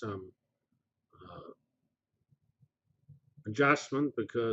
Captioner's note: pause